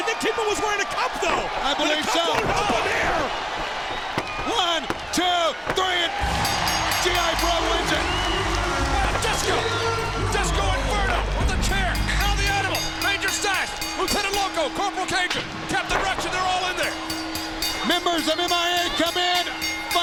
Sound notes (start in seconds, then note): 6.3 bell rings; 6.3 crowd cheers